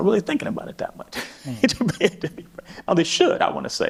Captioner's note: laughs